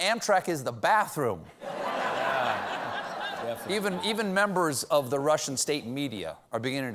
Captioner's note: laughter